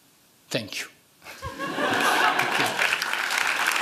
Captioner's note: laughing; applause